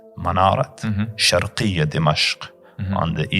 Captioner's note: Arabic